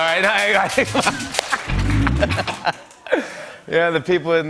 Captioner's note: laughter